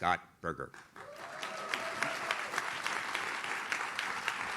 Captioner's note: audience claps